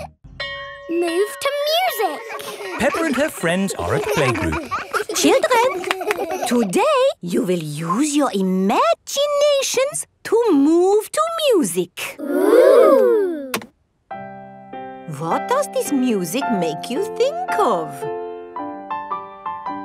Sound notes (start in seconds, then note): 3.6 all laughing; 14.2 gentle piano music playing